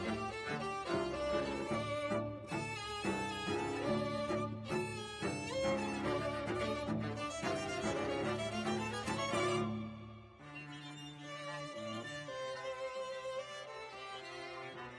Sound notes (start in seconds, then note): none